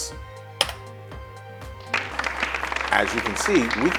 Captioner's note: applause